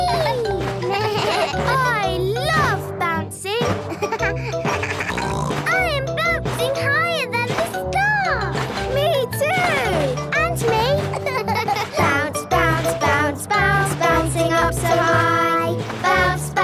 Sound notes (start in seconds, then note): 0.8 giggles; 1.4 bleating; 3.8 giggles, snorts